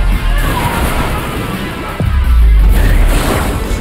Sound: Payapi screaming

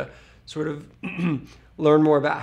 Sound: cough

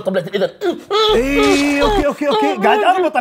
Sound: screams in pain

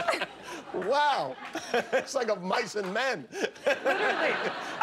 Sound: laughter

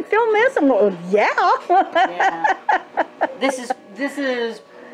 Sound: giggles

